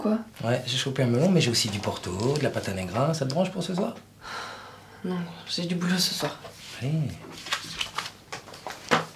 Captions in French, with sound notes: Ouais, j'ai chopé un melon, mais j'ai aussi du porto, de la pata negra... ça te branche pour ce soir ? [soupire] Non, j'ai du boulot ce soir. Allez...